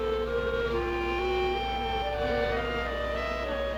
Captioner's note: buzzing